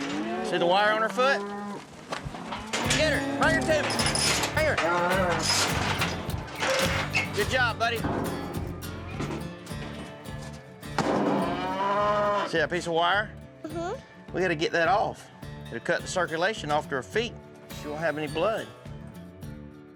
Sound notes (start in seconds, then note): 4.9 clanging sounds; 11.3 mooing